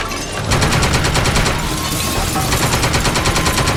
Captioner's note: glass shattering; guns shooting